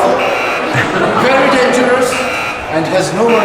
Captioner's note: buzzing; buzzing